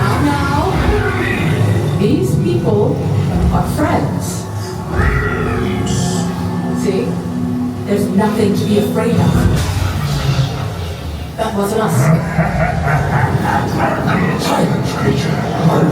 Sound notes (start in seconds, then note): 12.0 man laughing